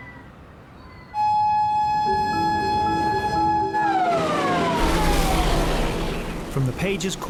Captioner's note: gentle music; siren blaring